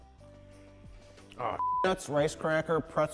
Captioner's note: beep